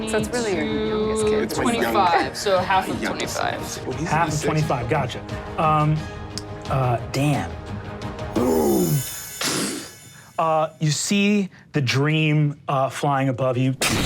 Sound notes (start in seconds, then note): 8.8 whooshing